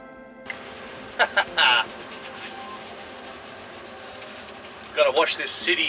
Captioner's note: chuckles